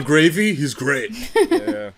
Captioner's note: chuckles